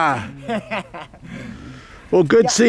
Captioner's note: laughing